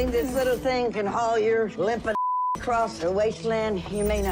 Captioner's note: beep